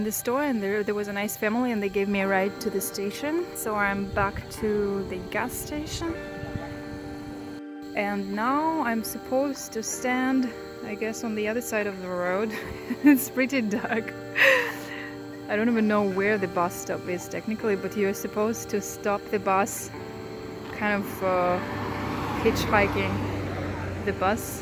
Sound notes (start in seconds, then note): 12.4 laughing